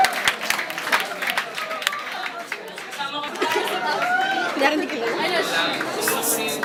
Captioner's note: clap Clap